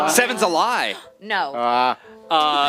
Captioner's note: gasp